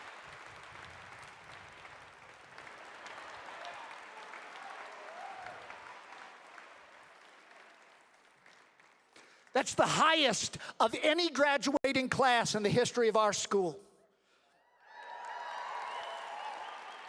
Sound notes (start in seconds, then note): 2.8 applause